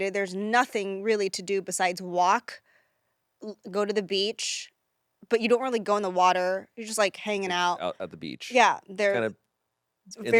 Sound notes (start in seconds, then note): none